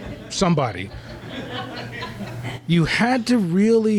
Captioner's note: laughter